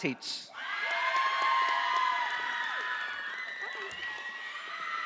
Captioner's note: audience applauding